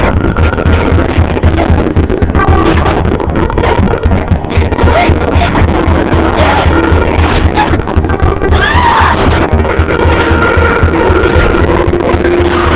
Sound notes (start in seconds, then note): 8.3 shouts